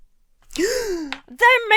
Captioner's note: gasps